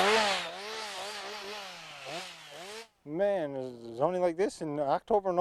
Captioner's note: saw buzzing